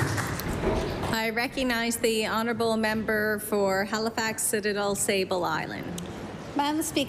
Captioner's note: applause